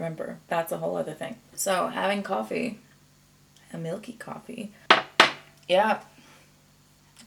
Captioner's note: mug double clinks on table